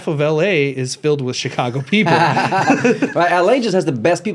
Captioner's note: laughs